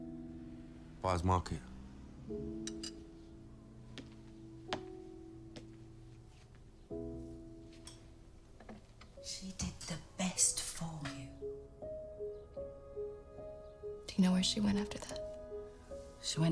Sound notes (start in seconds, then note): none